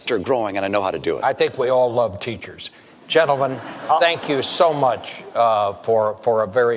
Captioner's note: laughter